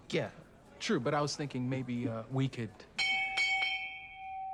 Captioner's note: bell ringing